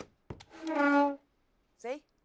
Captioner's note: chair scraping sound